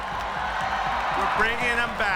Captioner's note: crowd cheering